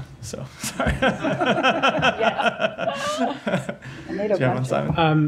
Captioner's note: laughter